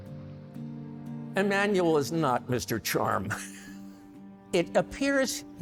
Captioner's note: chuckles